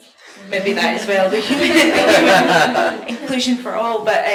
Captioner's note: all laugh